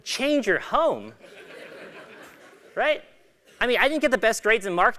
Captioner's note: laugh